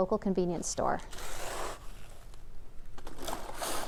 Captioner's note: sound of ice being put into the plastic bag